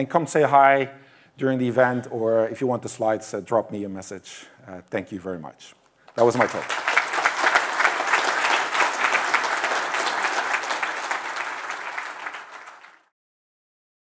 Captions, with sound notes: come say hi during the event or if you want the slides, drop me a message. Thank you very much. That was my talk. [applause]